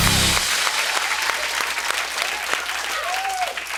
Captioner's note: applause